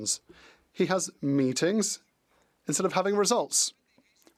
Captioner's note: speaking French